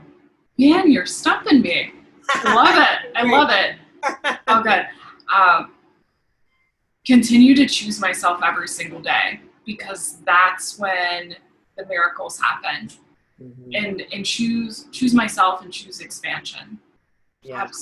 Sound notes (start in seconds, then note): 2.2 laughing